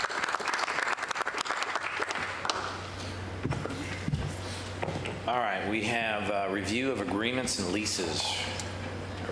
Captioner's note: applause